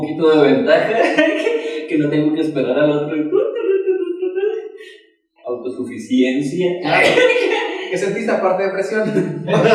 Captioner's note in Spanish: risas